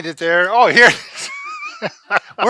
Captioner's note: laughing